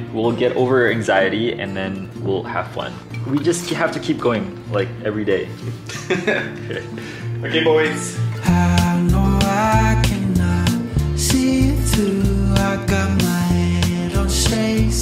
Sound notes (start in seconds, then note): 5.8 laughing